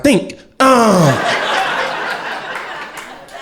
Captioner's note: crowd laughter